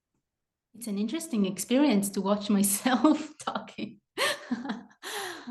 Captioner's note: laughs